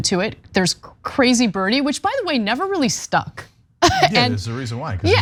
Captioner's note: laugh